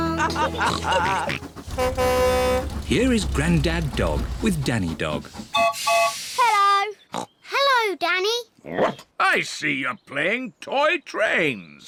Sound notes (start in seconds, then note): 0.0 all chuckle; 1.6 horn blares; 5.5 toots whistle